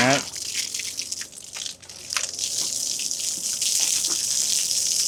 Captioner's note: water splashing continues